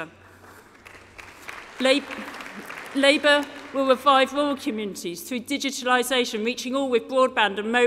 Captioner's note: applause